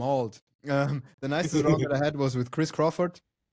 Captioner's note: laughs